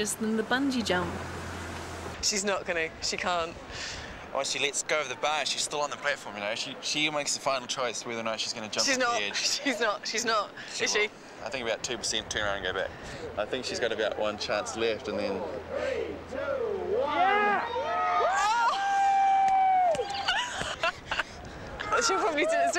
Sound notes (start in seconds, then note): 15.9 crowd; 17.5 cheering; 20.2 laughing and clapping